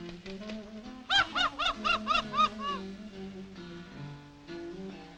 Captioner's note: bird laughing